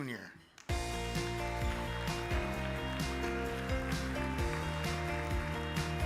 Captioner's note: upbeat music; audience applauds